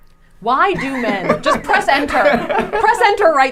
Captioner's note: laughing